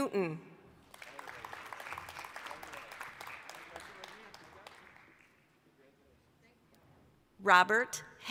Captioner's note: applause